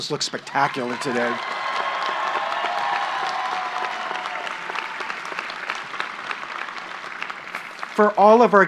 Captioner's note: applause